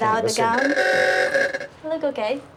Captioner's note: horn honks